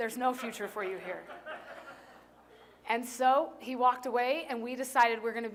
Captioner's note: laughter